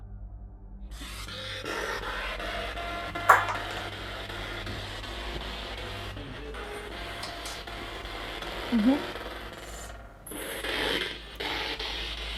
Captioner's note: sound of the Spirit Box in the background